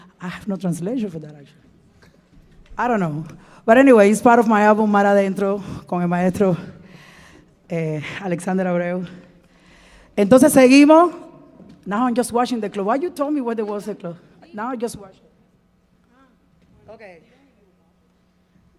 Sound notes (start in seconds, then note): 0.0 speaking in Spanish; 5.9 speaking in Spanish